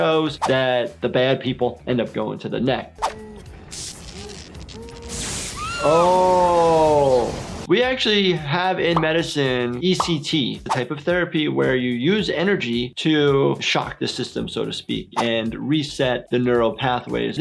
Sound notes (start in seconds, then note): 3.6 electricity crackles; 4.6 character screams